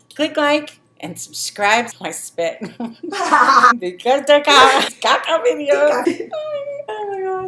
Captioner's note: laughing